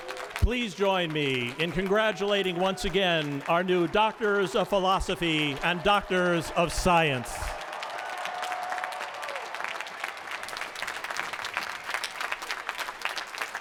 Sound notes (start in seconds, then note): 7.0 applause